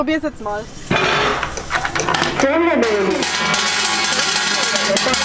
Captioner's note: turkish machine voice